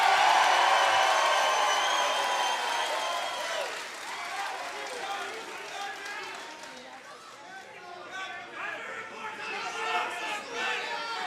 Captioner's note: crowd cheering